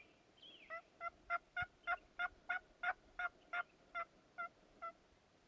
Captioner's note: more turkey gobbling